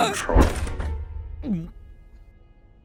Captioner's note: gulp